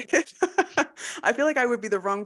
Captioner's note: laughing